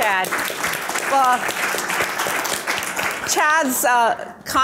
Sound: audience applause

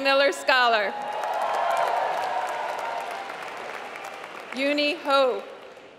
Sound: applause

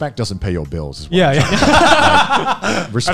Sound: laugh

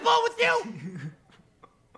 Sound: laughs

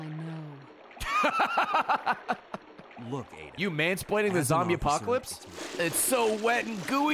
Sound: laughs

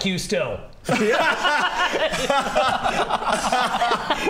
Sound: speechless laughter

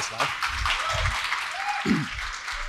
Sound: applause

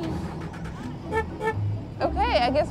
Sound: horn honking

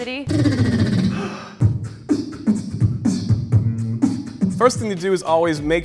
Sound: beatboxing

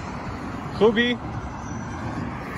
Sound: Farsi

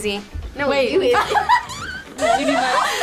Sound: laughs

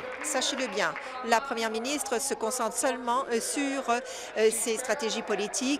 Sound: applause

